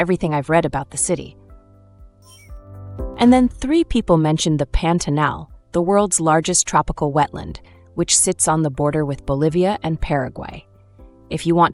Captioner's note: thoughtful